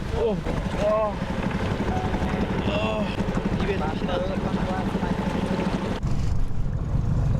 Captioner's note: groans in pain